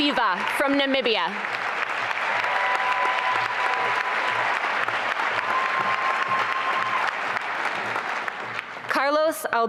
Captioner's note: applause and cheering